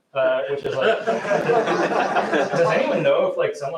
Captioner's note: laughter